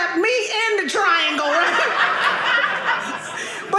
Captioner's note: audience laughing